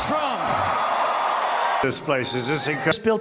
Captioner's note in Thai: เสียงโห่ร้องเซ็งแซ่